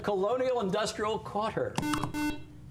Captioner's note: buzzer